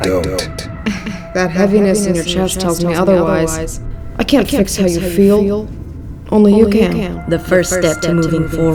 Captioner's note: chuckles